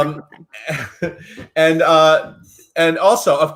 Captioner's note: laughs